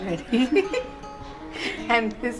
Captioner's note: laughs